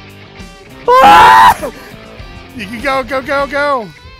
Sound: screaming

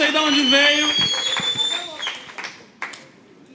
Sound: applause

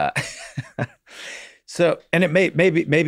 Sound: Glenn chuckles

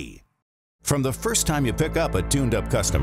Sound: voiceover

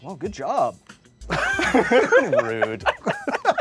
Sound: all laughing

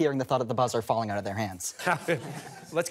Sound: laughter

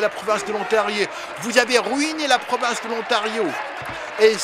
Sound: applause

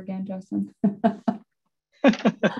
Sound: laughs

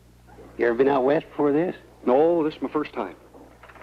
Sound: none

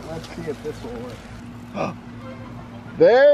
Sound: gasps

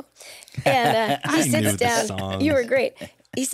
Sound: laughs

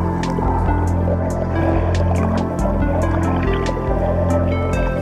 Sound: water rippling

